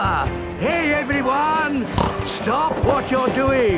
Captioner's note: snorts